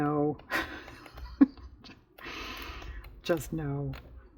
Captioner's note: laughs